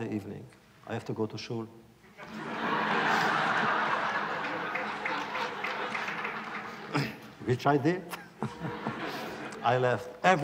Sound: laughter

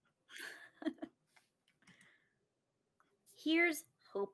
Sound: chuckles

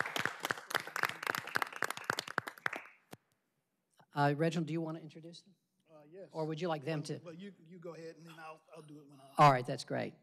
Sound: applause

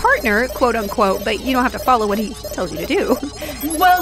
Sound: laughs

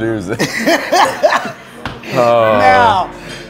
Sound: laughs

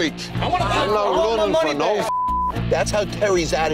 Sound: beep

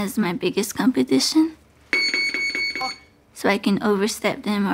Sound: electric signal beeps

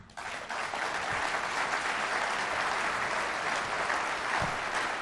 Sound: people clapping

